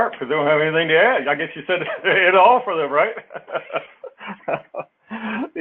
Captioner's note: laugh